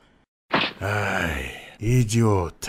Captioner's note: sigh